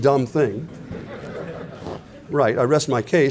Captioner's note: laughter